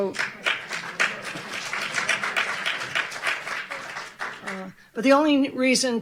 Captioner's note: audience clapping